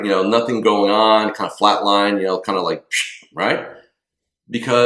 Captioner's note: whistles